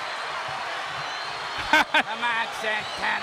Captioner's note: chuckling